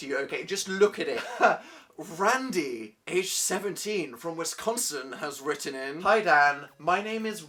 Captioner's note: laughs